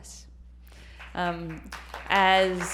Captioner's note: applause